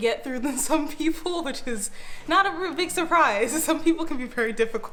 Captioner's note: giggling